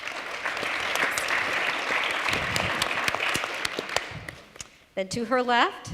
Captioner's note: applause